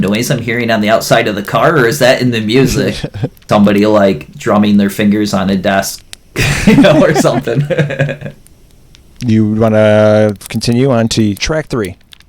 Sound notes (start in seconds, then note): 2.6 laughs; 6.4 laughter